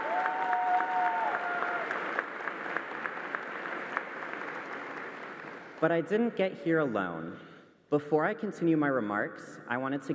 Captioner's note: applause